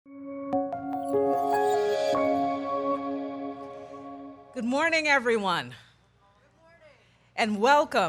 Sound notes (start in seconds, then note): 0.6 logo chiming